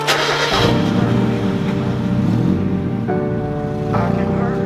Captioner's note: car engine revving; electronic music